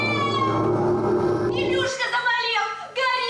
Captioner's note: shouts